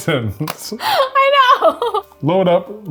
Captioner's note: laughs